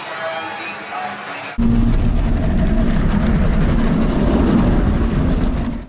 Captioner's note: crowd cheering